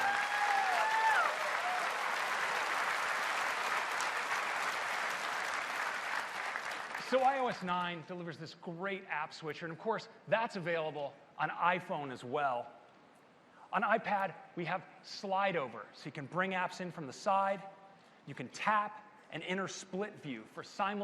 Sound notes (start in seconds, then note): 5.2 applause